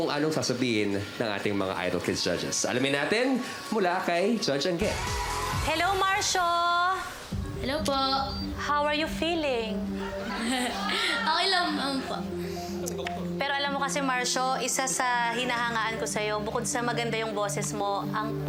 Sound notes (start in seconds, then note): 9.9 crowd chuckles; 12.9 chuckles